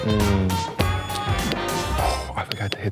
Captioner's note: buzzer beeps; lively music